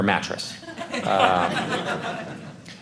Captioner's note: audience laughing